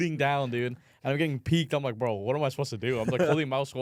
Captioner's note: laughs